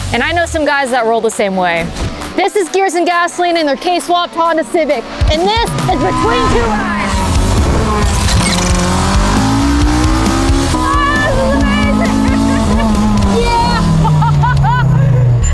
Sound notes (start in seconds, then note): 7.1 engine roaring; 13.9 laughing